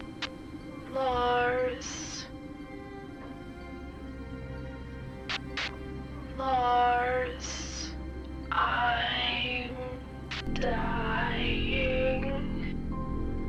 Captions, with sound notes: (Static) ...Lars. (Static) Lars, I'm dying.